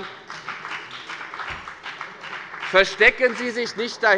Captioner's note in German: Beifall bei der FDP